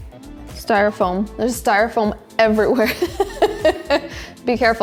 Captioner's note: chuckles